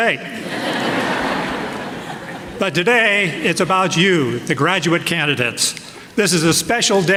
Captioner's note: laughter